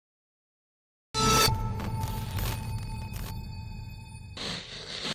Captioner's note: electricity sparking